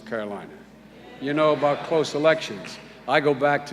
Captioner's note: audience mutters